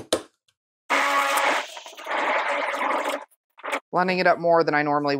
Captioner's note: quieted blending noises